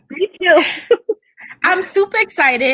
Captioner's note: both laughing